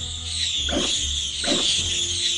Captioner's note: ear-piercing shriek; ear-piercing shriek x2; ear-piercing shriek x3